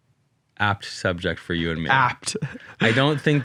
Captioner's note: chuckles